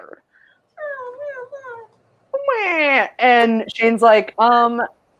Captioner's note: mumbles mockingly